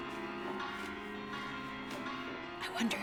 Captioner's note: whispers